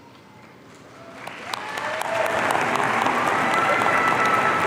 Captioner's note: audience cheering